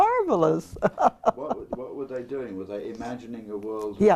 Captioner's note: laugh